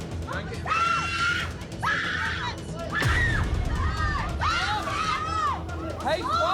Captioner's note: customer screaming; people fighting